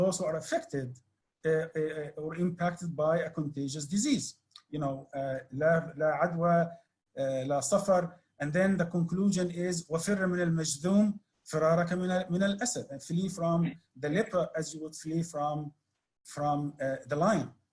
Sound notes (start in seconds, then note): 5.6 speaks Arabic; 11.4 speaks Arabic